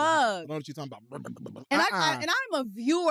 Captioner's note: growls